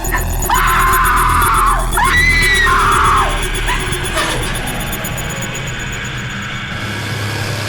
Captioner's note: screams very loud